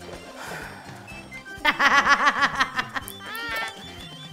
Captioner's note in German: Freudiges Lachen